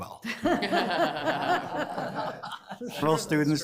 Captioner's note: all laughing